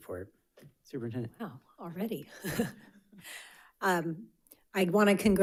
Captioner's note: chuckles